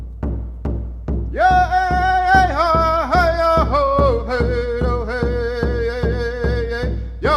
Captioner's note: drum beating; chanting